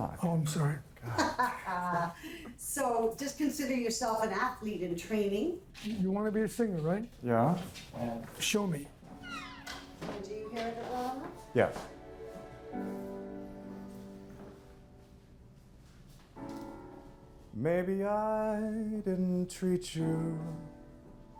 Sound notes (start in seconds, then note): 1.0 laughs; 12.6 piano accompaniment